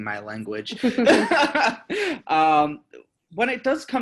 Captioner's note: both laughing